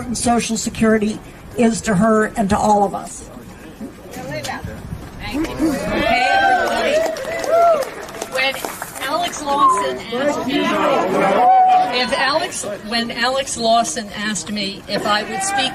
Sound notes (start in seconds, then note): 8.1 applause